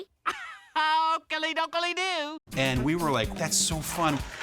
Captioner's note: chuckles